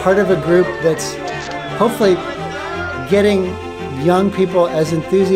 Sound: cheering

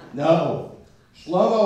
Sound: laughter

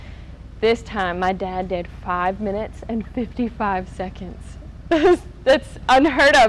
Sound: giggles

